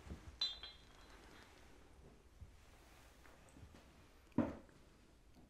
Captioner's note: whiskey trickling; glasses clinking